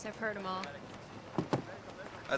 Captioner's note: thud